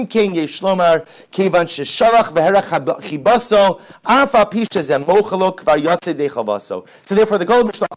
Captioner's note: Hebrew